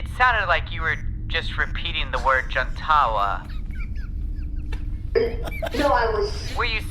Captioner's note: wheezy laughter in background